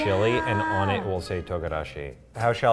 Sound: speaks in foreign language

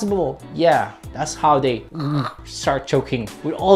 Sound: chokes

